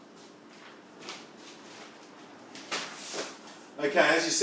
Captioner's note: paper pad clunking